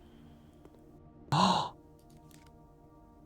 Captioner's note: gasps